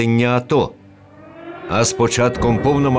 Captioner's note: air raid alert. Bombings